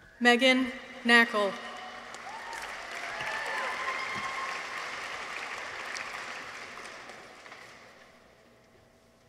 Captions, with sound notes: Meaghan Knackal. -(audience applauds) -(people cheer)